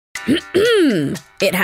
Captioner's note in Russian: Кхм